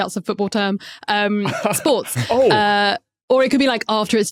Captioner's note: laughs